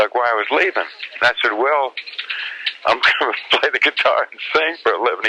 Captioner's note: laughs